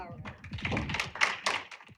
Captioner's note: applause